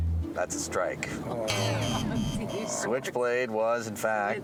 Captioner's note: buzzing